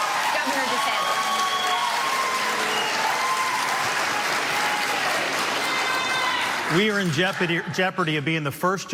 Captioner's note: cheers and applause